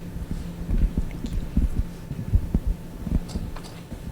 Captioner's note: mic rustling